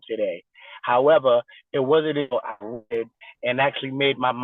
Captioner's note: distorted recording